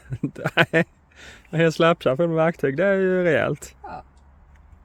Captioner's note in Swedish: skratt